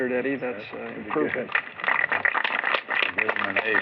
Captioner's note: applause